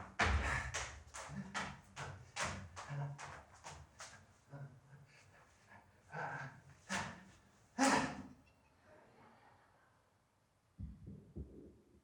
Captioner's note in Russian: аплодисменты